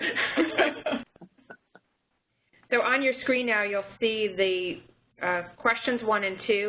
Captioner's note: laughter